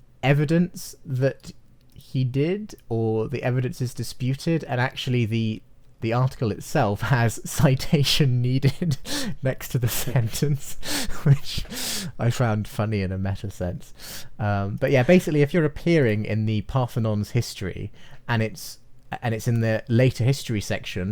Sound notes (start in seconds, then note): 10.5 laughing